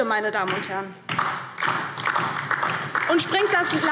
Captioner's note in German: Beifall DIE LINKE